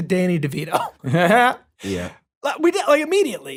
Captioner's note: laughs